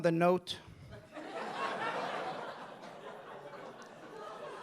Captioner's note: audience laughing